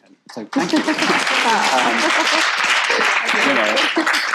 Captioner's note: audience applauds